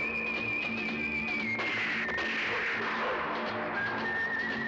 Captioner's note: gunshots